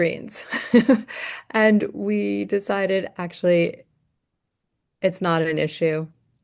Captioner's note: laughter